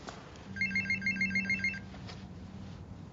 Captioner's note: ringing